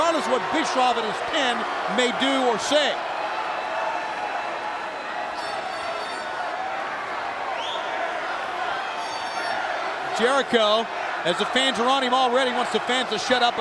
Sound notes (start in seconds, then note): 3.1 crowd cheering